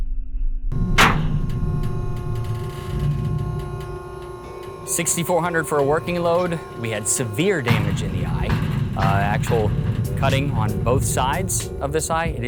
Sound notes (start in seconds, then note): 1.0 machine whirring